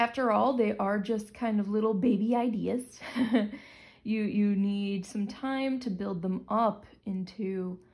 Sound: chuckle

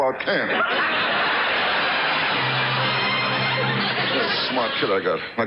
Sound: audience laughs; orchestra riffs

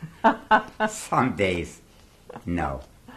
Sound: laughs

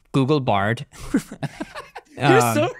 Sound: both laughing

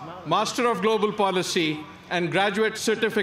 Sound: none

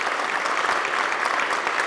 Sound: applause

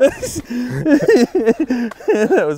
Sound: laughing

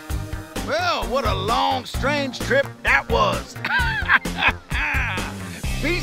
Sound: laughs

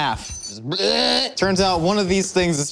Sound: exclaims

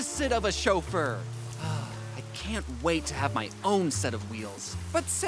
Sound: sighs

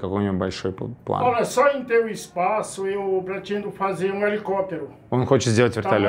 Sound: speaks Portuguese

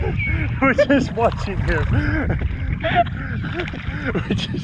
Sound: laughing

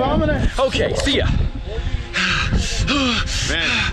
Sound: groaning in fear

